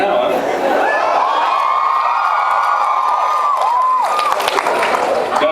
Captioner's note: laughs; cheers